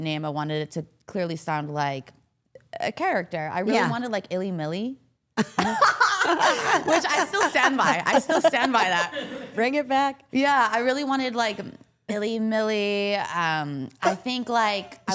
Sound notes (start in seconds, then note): 5.5 everyone laughs